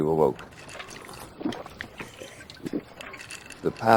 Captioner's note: gulping and clinking sounds